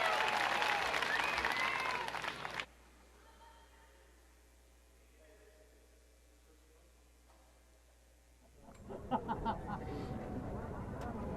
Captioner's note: cheers and applause